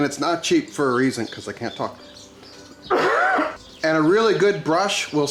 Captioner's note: coughs